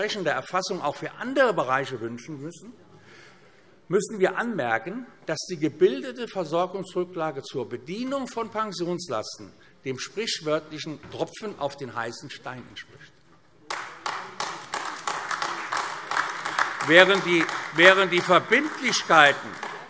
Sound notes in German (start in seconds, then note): 15.4 Beifall AfD